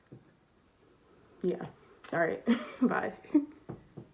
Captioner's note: laughs